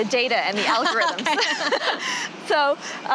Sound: chuckling

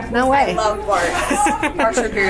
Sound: laughs

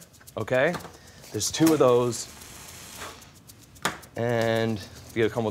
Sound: blows

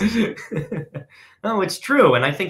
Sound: laughing

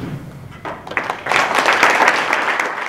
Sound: applause

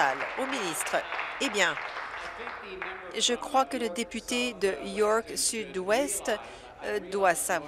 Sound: applause

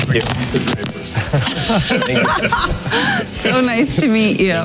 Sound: everyone laughing

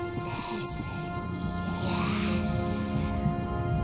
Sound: ghostly Voices

